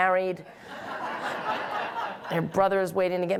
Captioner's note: audience laughing